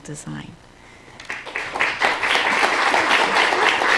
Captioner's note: applause